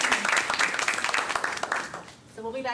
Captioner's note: audience applauding